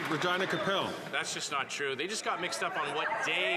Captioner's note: applause